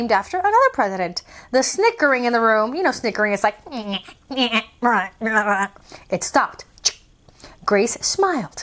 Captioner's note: snickering demonstration